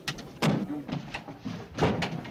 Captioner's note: window bangs shut; door bangs open